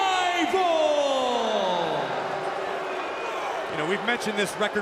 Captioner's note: crowd cheering